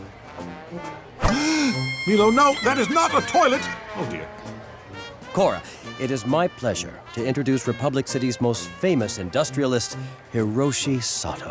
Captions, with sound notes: [gasping] Meelo! No, that's not a toilet! Oh dear. Korra, it's my pleasure to introduce Republic City's most famous industrialist, Hiroshi Sato.